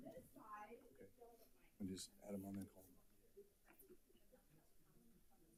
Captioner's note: speaker speaking faintly